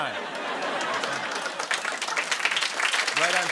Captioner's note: laughter and applause